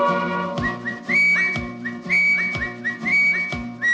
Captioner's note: whistles